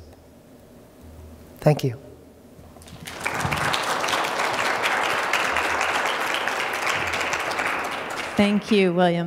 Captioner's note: applause